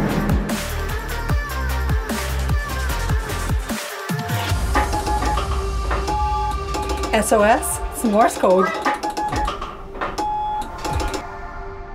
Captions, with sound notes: Earlier in the day [beeps] SOS? It's Morse code.